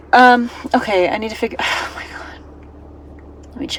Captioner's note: sighs